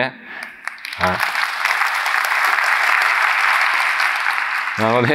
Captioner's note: applause